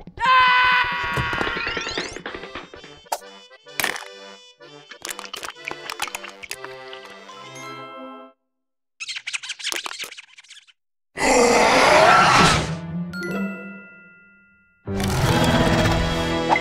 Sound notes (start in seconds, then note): 2.1 German music plays; 11.2 roars